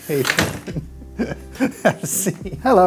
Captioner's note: laughs